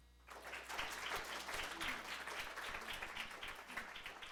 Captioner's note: applause